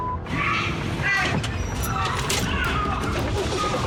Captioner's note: workers yelling